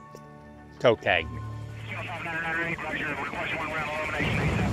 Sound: man speaking on radio

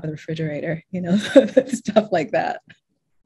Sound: laughs

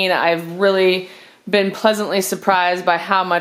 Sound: none

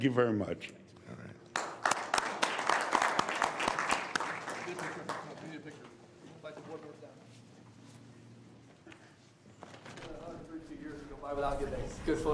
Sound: applause

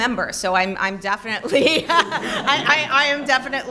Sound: laughter

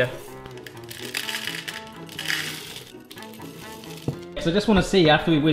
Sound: whimsical music; nibs rattling

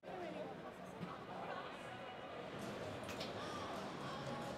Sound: audience chatter

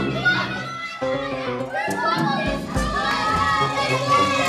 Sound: kids cheering

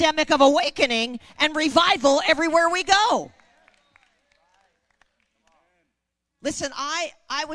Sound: crowd agreeing and clapping

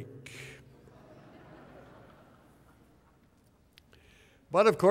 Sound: laughter

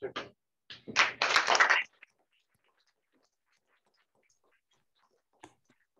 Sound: applause

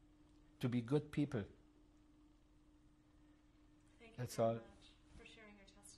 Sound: pauses for 3 seconds

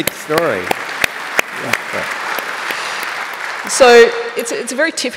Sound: applause

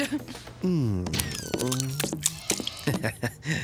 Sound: moaning

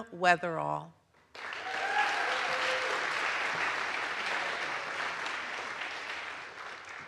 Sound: audience applauds; audience cheers

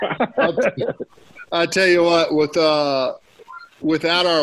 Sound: laughter

